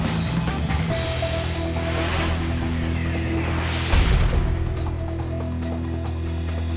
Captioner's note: screen whooshing; upbeat music; logo whooshing and thuds